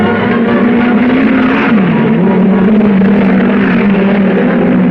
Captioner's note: cars revving